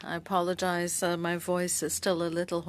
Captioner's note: speaking French